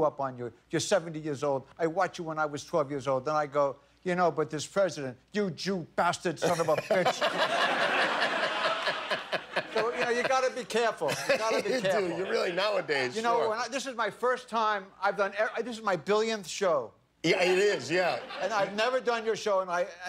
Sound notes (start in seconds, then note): 11.0 laughter